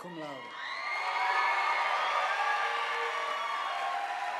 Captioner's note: audience applauding